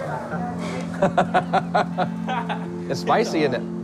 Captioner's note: both laugh